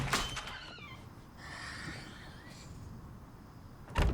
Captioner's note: sighs; door shuts